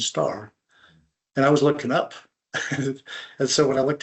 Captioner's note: chuckles